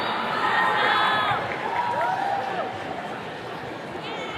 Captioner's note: attendees cheering